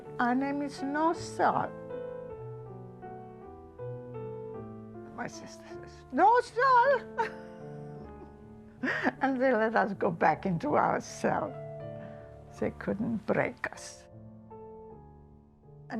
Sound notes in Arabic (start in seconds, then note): 8.8 تضحك